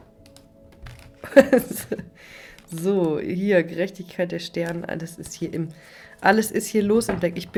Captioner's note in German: gelächter